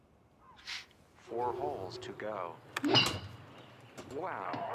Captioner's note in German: auf Englisch